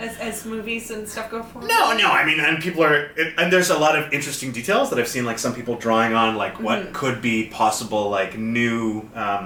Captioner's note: none